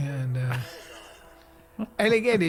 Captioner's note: laughing